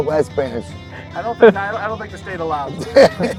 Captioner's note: laughing; chuckles